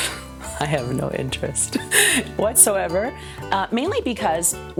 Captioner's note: laughs